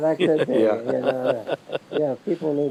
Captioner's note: both laughing